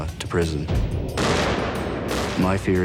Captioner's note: gunshots